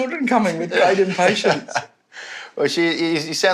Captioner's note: laughs